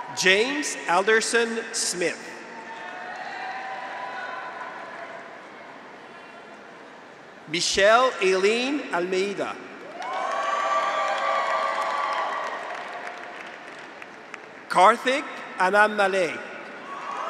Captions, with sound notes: James Alderson Smith. (graduates cheer) (audience applauds) Michelle Eileen Almeida. (graduates cheer) (audience applauds) Karthik Annaamalai.